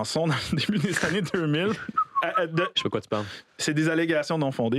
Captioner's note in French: siffle